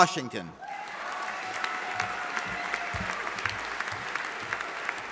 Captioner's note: audience applauding